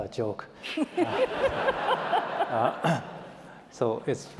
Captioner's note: laughter